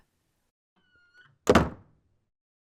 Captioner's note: door closes